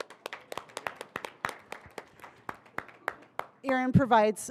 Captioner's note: audience applauding